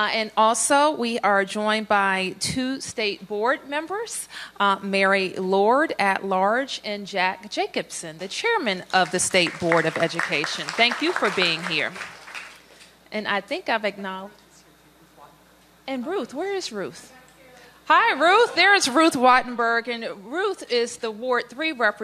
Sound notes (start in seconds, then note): 12.1 applause